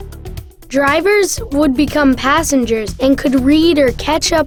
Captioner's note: voiceover